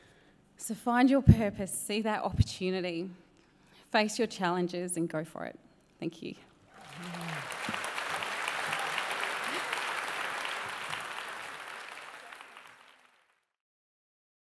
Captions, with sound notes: So, find your purpose, see that opportunity, face your challenges and go for it. Thank you. (CHEERING AND APPLAUSE)